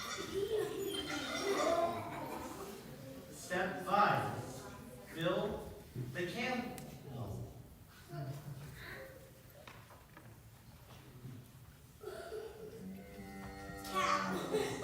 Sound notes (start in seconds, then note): 6.3 camel sound; 10.8 sheep sound